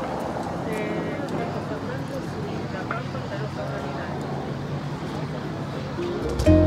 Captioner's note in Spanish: murmullo de gente